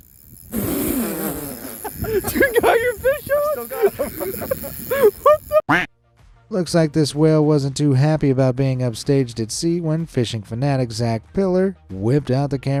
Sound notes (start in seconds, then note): 1.1 fishermen laughing; 5.6 duck quacking